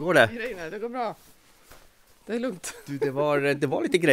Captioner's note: laughs